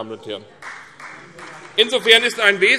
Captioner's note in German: Beifall CDU